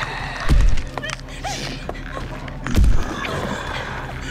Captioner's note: Lyne whimpering